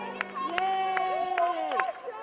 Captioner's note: clapping